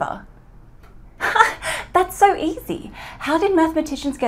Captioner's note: laughs